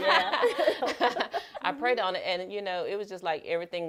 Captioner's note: laughter